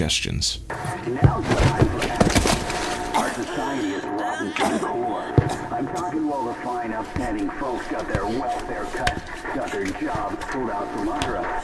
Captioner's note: random radio chattering and the sound of a women coughing and gasping